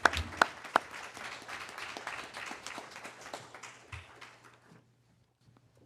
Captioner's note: applause